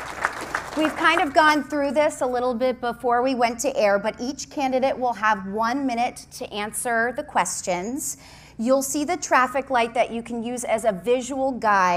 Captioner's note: applause